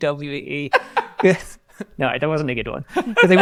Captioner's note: laughs